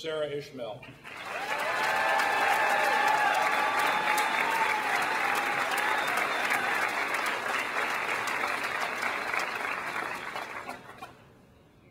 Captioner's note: clapping